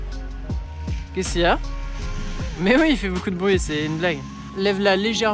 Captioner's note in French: Bruit du personnel d'entretien